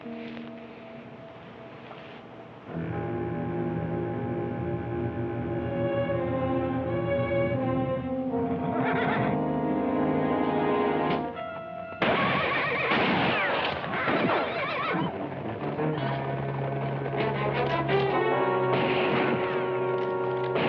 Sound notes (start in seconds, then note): 12.8 gunshot; 18.6 gunshots